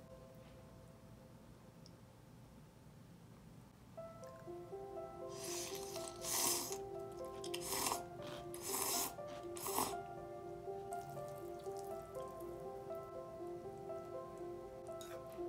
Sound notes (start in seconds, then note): 7.3 slurp slurp